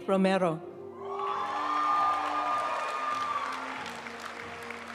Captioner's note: audience cheering and applauding; graduation music